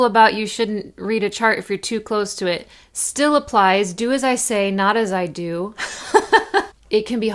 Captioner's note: laugh